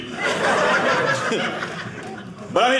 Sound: audience laughing

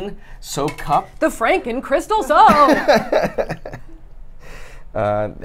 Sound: laughs

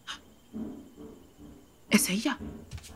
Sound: footsteps ascending

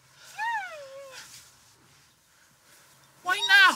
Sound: woman whimpering

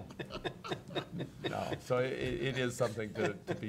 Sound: laughing

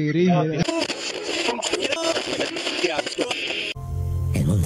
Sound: tuning into radio frequency

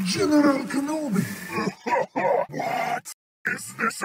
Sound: coughs

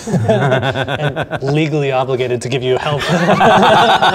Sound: laughing; laughing

